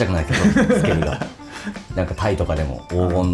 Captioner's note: laughs